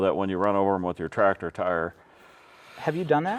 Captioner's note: sighing